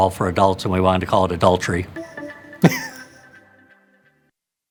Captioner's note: chuckles